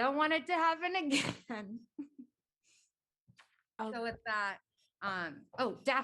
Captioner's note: laughter